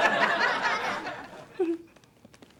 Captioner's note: laughter